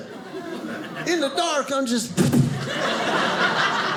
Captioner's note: audience laughing; thump